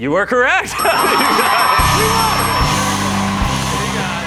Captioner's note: cheers and applause